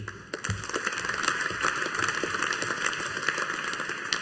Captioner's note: audience applauding